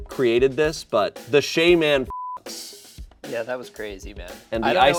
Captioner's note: beep